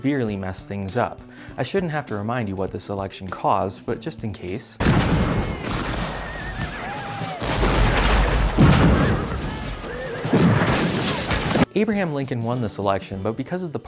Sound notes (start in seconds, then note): 4.8 musket and cannon fire